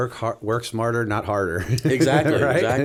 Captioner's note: chuckle